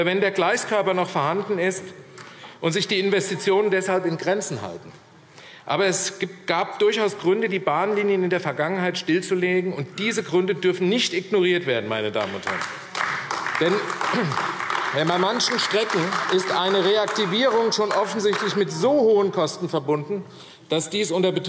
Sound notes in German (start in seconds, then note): 12.1 Beifall AfD